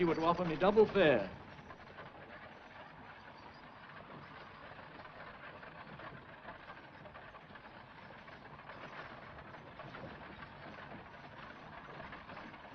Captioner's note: carriage rattles